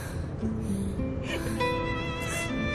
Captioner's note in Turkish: Ağlıyor